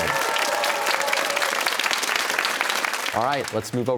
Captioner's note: cheers and applause